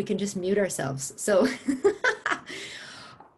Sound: laughter

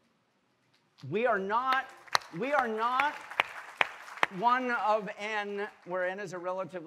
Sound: all applauding

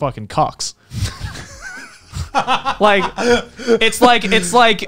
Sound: laughing

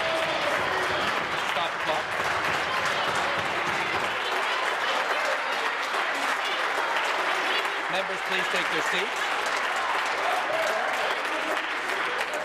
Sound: applause

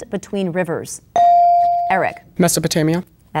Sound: bell dinging

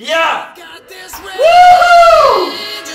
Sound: rejoicing

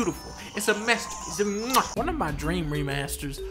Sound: mwah

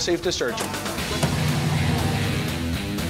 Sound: car engine revving; fast-paced rock music

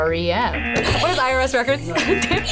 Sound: buzzer; buzzer rings

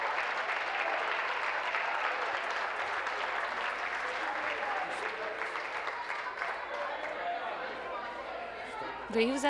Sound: applause

